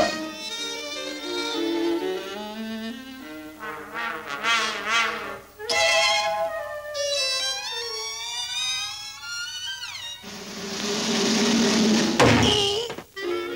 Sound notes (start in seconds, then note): 5.7 ding!; 10.2 drumroll; 11.9 bop!